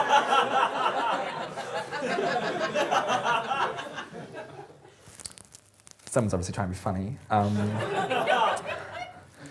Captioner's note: laughter